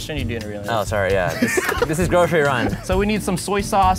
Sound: both laugh

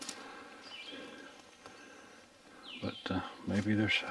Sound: birds chirping

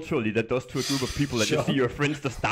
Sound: chuckles

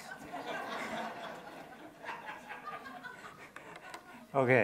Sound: attendees laughing

